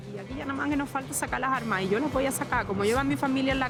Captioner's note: speaking Spanish